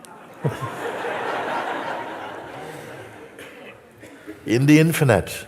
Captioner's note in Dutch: gelach